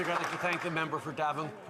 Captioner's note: some Applause